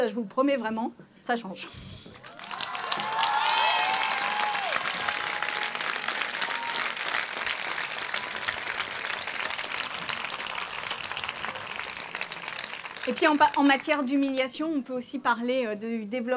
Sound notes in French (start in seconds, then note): 5.4 Applaudissements